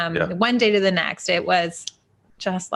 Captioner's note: fingers snapping